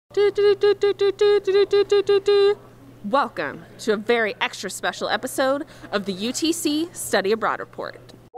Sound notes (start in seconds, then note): 0.2 making breaking news sound